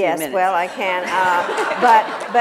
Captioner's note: laughter